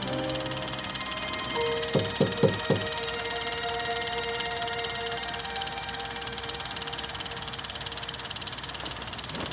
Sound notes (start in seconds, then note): 1.9 knock on door